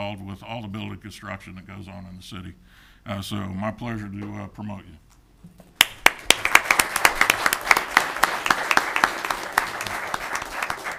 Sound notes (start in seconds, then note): 5.8 audience applauding